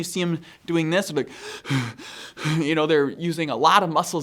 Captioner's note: gasping